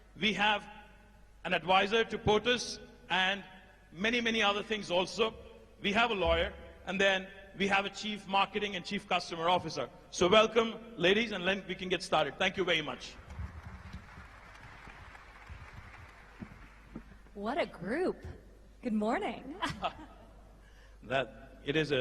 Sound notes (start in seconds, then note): 13.1 applause